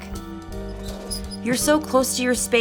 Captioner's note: hinge squeaking